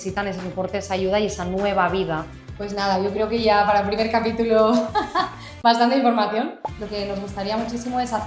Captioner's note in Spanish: risas